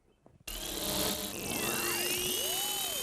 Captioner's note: buzzing sound